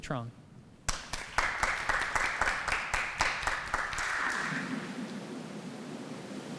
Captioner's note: applause